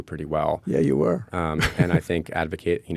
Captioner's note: chuckles